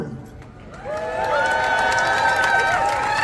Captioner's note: applause